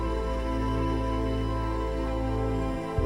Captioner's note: none